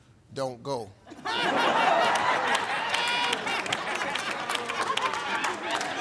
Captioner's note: audience laughing and applauding